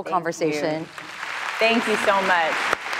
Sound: clapping

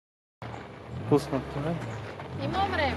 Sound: revs engine

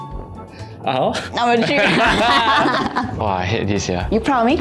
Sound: laughs

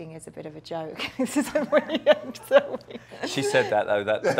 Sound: laughs

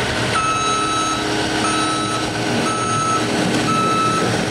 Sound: reverse signal beeping

